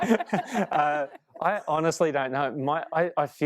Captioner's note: laughing